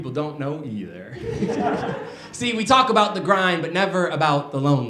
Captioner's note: laughter